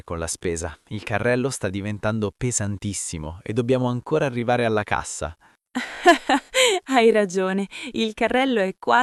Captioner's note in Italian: risate